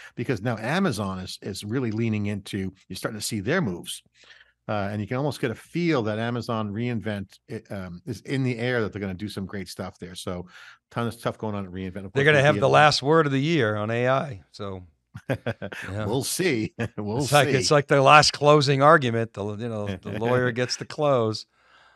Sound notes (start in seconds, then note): 15.1 laughs